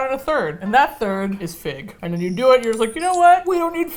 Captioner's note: computing sounds